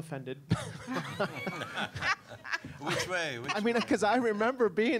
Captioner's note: all laughing